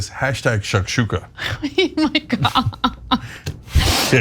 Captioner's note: laugh